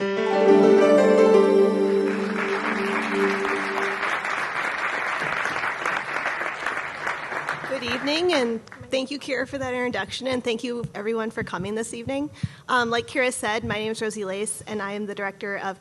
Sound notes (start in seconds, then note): 0.0 bright music; 1.9 audience clapping